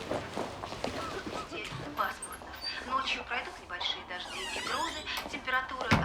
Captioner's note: radio news report in foreign language